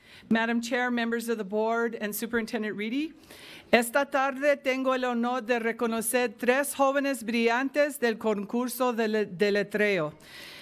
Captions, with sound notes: - Madame Chair, members of the Board, and Superintendent Reedy. (speaking in foreign language)